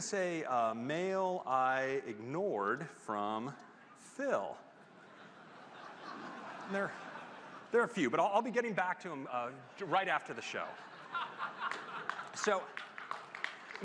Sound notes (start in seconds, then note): 10.3 laughter